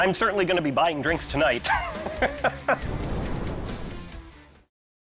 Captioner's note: laughs